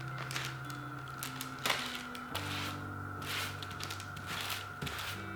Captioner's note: paper rustles